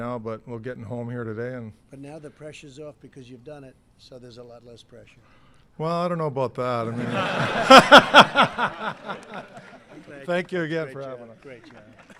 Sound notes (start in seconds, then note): 6.9 laughter